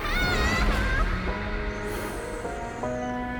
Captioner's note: heavy breathing